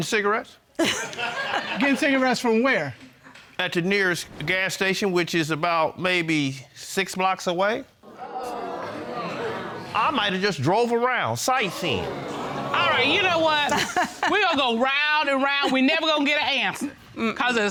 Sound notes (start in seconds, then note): 1.4 chuckles; 8.1 audience exclaims; 13.7 laughing